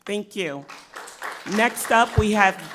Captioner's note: crowd clapping